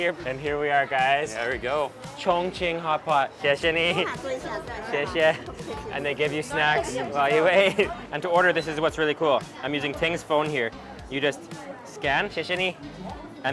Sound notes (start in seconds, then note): 3.2 speaks in a foreign language; 4.1 woman speaks in a foreign language; 5.0 speaks in a foreign language; 11.6 speaks in a foreign language